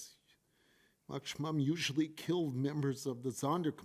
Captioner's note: foreign language